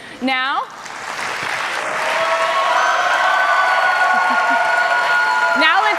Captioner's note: cheers and applause